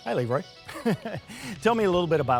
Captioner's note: chuckling